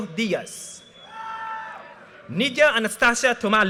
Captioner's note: audience cheers and applause